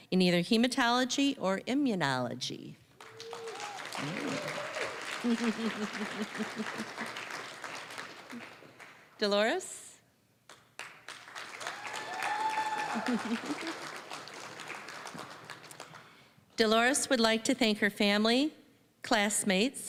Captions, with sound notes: in either hematology or immunology. (applause) Dolores. (applause, cheering) Dolores would like to thank her family, classmates,